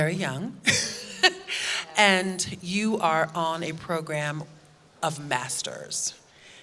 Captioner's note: chuckles